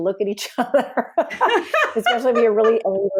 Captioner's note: both laugh